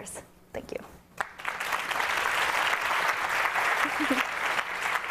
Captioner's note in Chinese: 掌聲